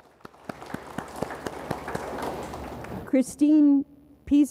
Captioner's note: audience applauds